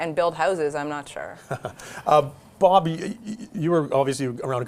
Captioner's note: chuckling